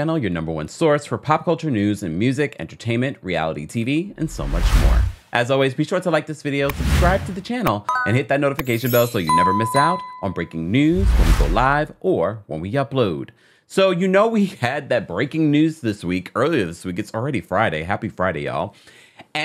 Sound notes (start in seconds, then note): 4.1 drop down whooshes; 6.6 like button whooshes; 7.8 bell rings